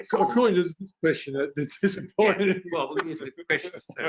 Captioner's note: laughs